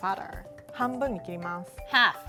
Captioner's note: speaking Japanese